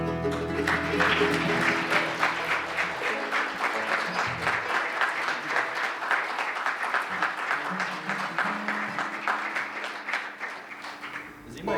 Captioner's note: applause